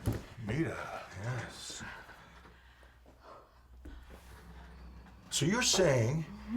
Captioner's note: Carlotta panting